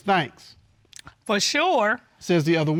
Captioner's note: judge dana reading